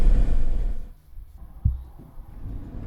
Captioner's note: heart beating